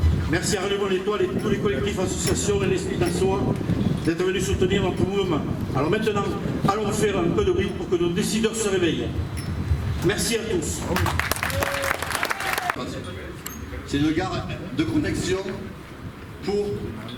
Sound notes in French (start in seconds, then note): 10.8 applaudissements